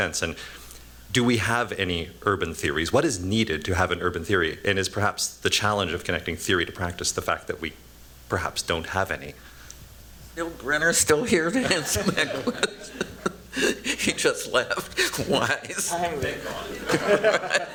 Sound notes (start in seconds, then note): 11.2 chuckles; 14.7 laughter